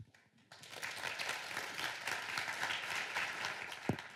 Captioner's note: applause